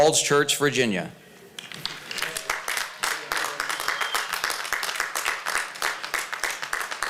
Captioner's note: applause